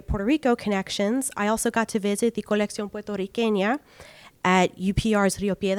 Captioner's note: speaking Spanish